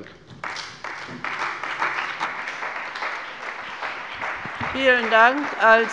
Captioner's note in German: Beifall bei der CDU und dem BÜNDNIS 90/DIE GRÜNEN